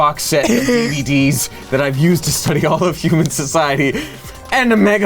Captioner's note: chuckling